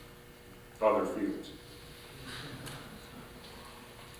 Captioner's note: chuckling